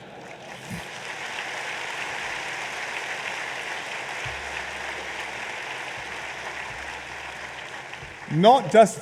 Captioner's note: laughter and applause